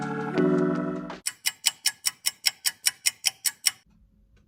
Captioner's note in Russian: тиканье часов